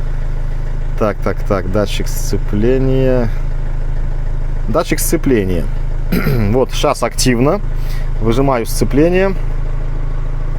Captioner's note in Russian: откашливается